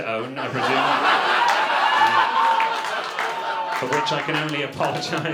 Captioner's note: audience laughter